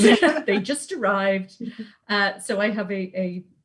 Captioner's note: sing song